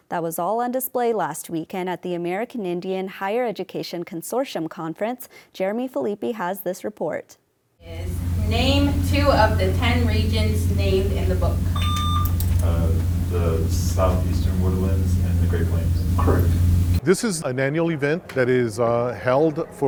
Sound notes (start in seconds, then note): 12.0 beeping